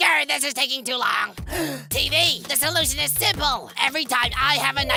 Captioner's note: gasp